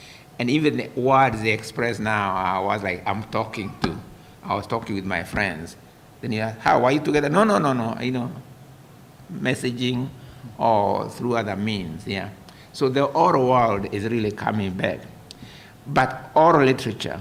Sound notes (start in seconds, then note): none